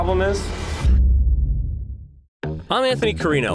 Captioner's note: whooshing sound